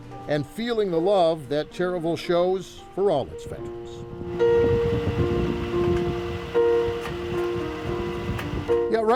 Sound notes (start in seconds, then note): 4.1 wind blowing; 5.9 calm piano music